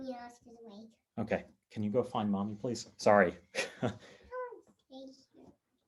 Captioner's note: laughs